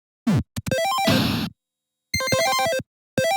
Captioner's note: video game sounds